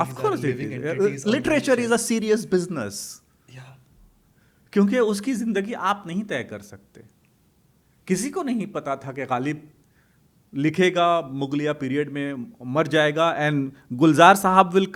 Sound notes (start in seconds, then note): 6.4 hindi